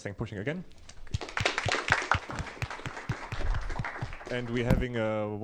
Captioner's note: applause